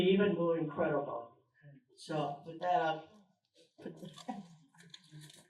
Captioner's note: snaps and applause